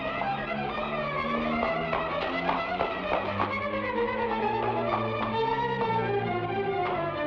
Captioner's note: suspenseful music; shoes thud